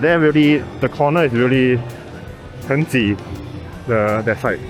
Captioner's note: in Mandarin